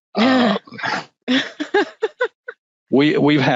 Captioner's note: laughing